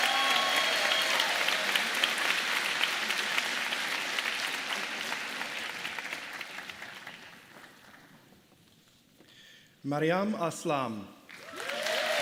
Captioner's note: applause